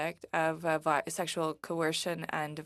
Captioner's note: speaking French